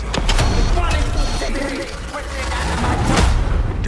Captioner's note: distorted yelling